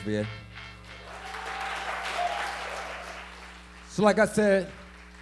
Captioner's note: audience cheering and applauding